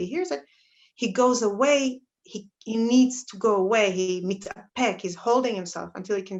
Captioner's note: Hebrew